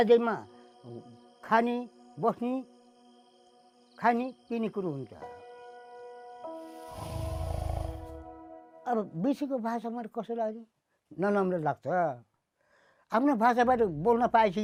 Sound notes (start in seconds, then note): 0.3 speaks in foreign language; 6.8 tiger roaring; 9.7 speaks in foreign language